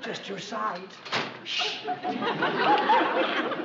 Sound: thud

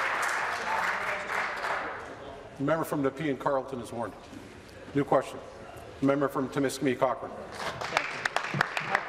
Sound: applause

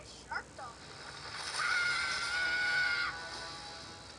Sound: screaming

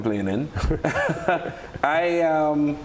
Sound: laughter

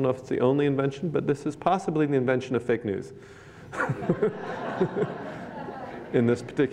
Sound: laughter

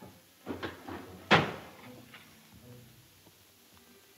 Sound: door slams

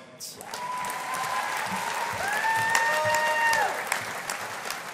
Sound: audience applauding

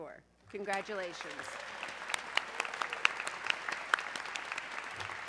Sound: audience clapping

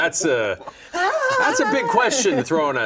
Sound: laughing

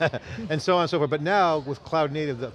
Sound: laughs

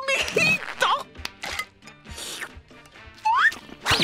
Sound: slurp

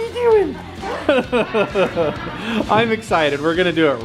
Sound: laughing

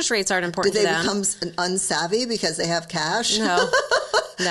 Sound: laughing

